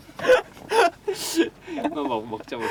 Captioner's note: laughter